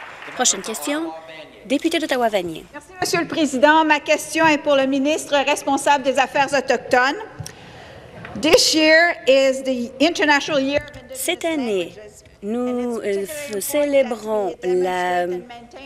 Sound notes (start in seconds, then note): 0.0 applause; 6.3 speaking French